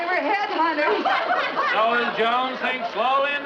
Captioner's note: house Guests Laughing